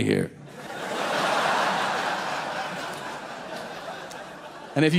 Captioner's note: audience laughing